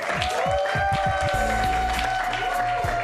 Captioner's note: cheers and applause